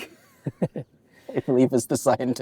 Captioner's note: laughter